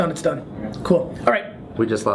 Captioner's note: voiceover